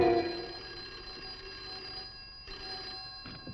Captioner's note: phone ringing